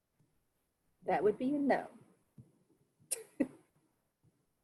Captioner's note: chuckles